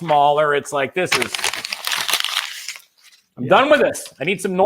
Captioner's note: crinkling paper sound